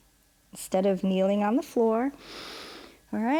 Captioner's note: inhales